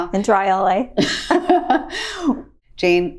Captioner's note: both laughing